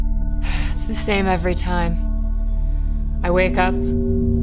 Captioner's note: sighs